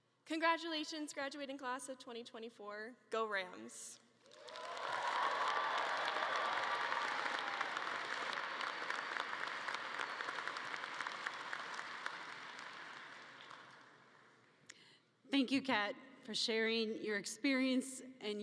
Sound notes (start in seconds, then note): 4.2 audience cheering and clapping